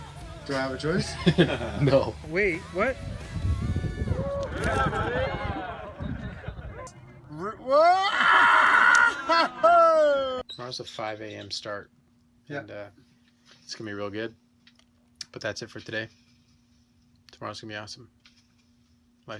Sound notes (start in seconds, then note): 1.0 laughs; 4.1 cheering; 7.9 shouting